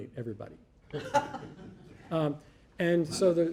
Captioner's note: audience laughing